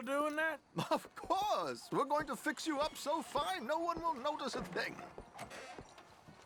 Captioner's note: laughing